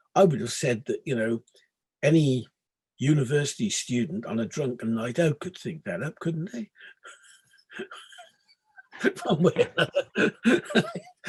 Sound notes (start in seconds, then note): 8.8 laughing